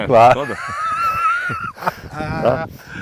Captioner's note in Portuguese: Risos